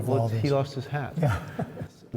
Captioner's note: laughter